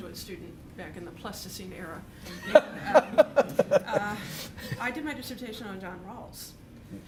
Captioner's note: laughter